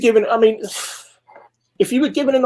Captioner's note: sighs quickly